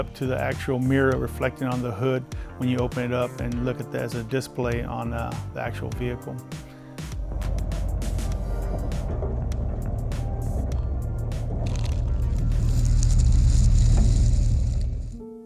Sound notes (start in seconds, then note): 6.7 engine humming